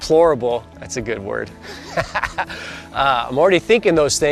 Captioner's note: laughing